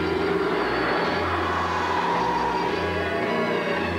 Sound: hissing

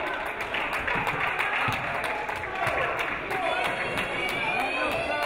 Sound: audience applauding

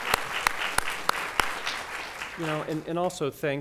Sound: applause

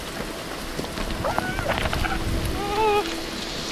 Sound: screams

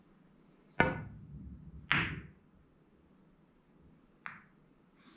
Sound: pool balls tapping

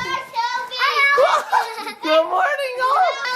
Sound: dad laughs

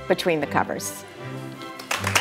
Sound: audience applauds

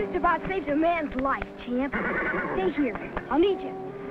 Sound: neighs

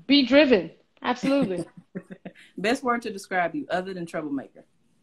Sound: laughs

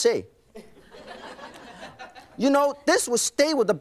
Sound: laughing

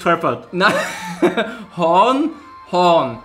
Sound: laughs

